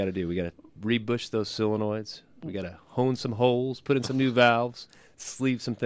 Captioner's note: laughs